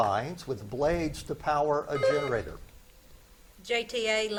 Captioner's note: buzzer beeps